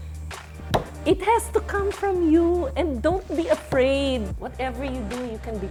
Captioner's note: slams table